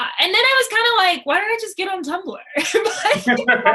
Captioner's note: laughter